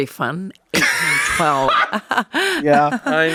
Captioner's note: chuckles